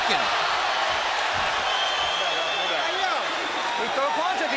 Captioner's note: shouting and cheering